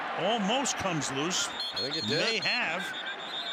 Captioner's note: whistle blows